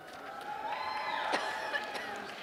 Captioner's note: cheers and applause